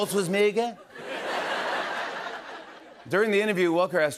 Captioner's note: laughter